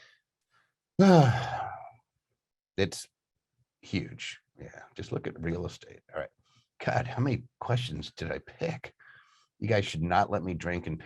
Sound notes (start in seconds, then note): 1.2 exhales deeply